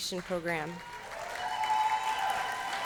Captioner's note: applause